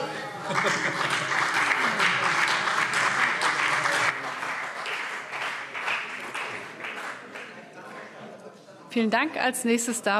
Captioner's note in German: Beifall CDU und BÜNDNIS 90/DIE GRÜNEN